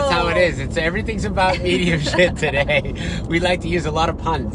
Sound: laughter drowns out talking

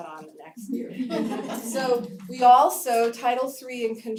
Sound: laugh

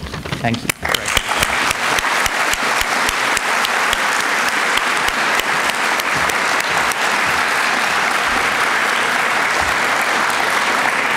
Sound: applause

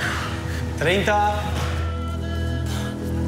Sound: speaking in Spanish

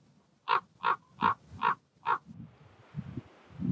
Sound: bird calling

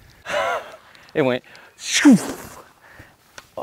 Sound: laughs

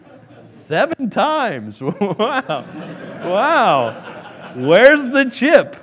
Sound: laughing

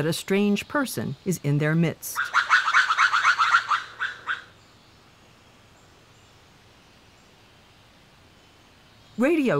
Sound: lemur call

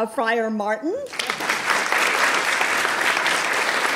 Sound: applause

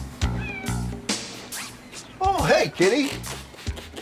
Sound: Duffy meowing

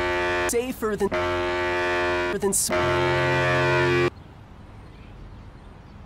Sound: buzzer

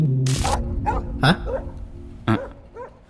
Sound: dogs Barking

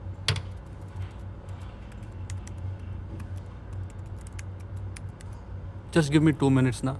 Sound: typing sound

